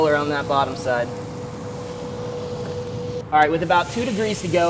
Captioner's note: sizzling